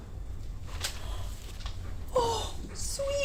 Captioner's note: Nev gasps